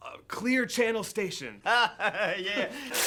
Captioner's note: Jewels laughing